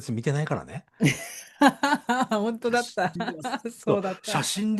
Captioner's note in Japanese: 笑い